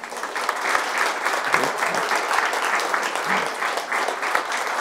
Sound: audience applauds

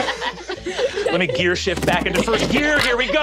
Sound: gears shifting

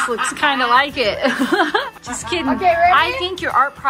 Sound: all laughing

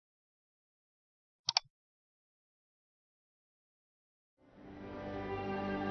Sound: computer mouse clicking

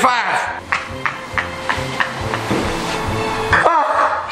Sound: laughs

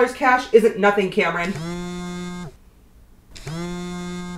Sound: cell phone vibrates

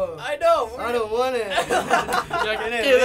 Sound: laughter

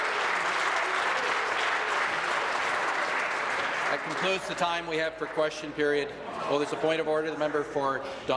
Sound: applause

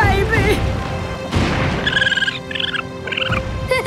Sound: squeaking

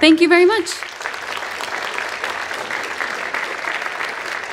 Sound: audience applauding

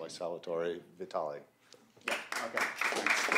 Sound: applause

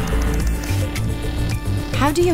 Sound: keyboard clicks; machines buzz

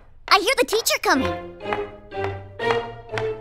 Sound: approaching footsteps

